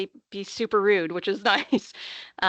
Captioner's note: chuckling